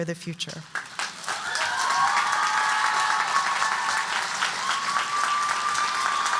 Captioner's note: audience cheering and applauding